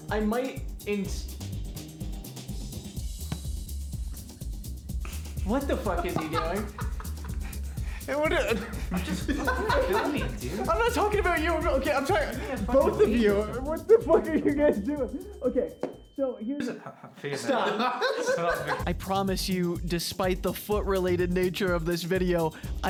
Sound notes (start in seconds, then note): 11.7 becoming muffled; 13.6 intensifying Ear Ringing noise; 16.6 laughter; 18.9 voiceover